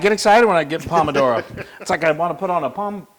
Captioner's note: laugh